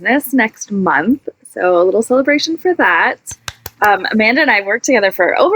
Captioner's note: clapping